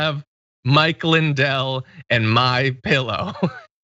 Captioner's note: laugh